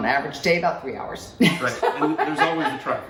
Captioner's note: laughs